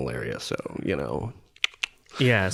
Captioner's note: clicking tongue